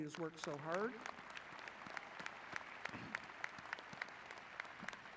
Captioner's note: audience clapping